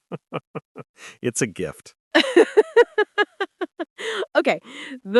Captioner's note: chuckling; laughing, then recovering